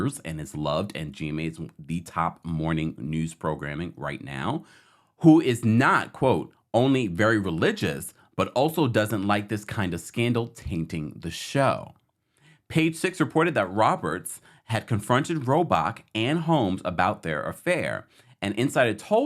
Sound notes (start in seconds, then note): none